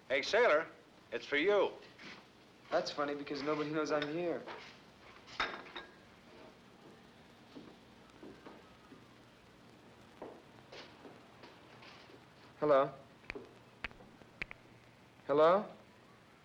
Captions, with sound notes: Hey sailor... it's for you. - That's funny because nobody knows I'm here. (cup clanks down) Hello. (snapping fingers) Hello?